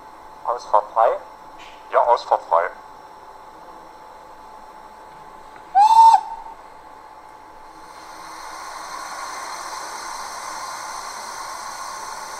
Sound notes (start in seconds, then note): 5.7 whistle